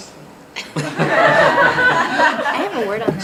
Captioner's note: audience laughs